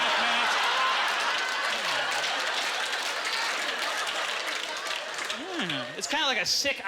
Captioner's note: audience laughter